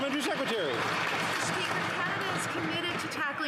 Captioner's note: applause